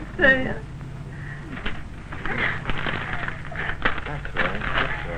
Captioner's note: whimpering, crunching, crumpling of paper